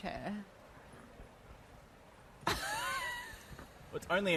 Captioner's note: laughter